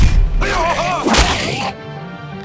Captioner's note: yelps in shock